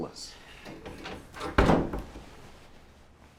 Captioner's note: door thudding